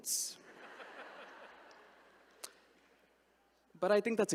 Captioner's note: all laugh